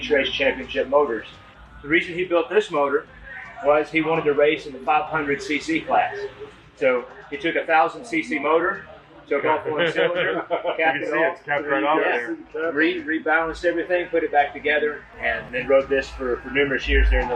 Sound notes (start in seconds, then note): 9.4 laughing